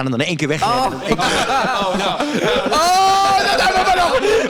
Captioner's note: gaggle